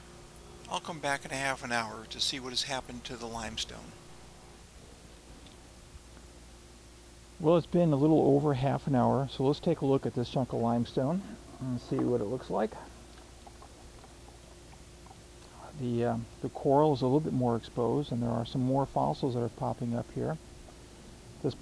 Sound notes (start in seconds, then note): 13.0 liquid dripping